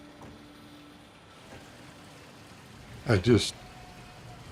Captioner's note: fountain splashing